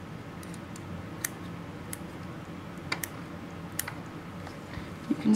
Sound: clipping sounds

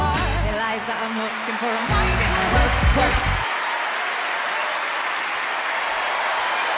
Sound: crowd clapping

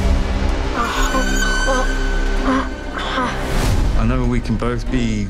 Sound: child screaming and grunting

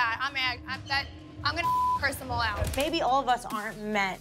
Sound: beep

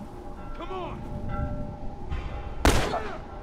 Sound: bell ringing

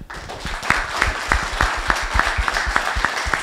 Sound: applause

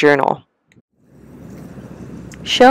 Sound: wind rustling prairie grasses

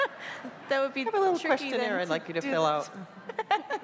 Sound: laughter

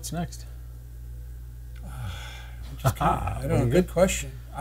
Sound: sighs

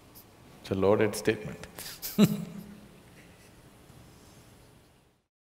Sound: laughs

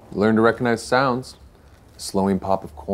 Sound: none

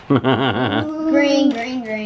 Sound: man laughs

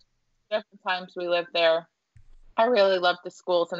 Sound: audio distorting

